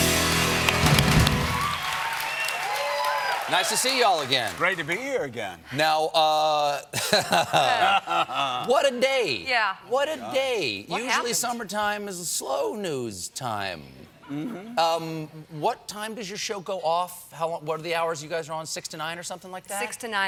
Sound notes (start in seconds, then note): 6.9 laughter